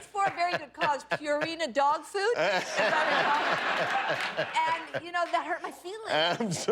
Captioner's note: laughter